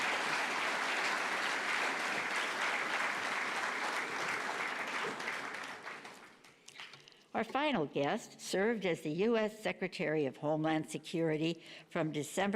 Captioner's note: applause